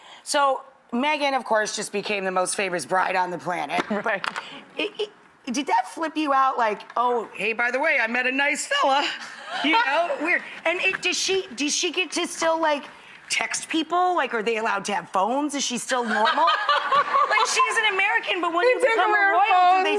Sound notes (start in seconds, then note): 9.0 Priyanka laughs; 16.0 Priyanka laughs